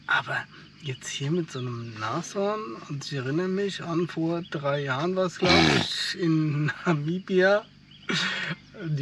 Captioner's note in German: schnauben